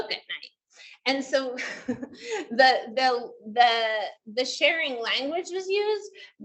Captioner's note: laughs